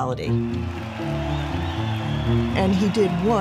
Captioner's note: crowd cheering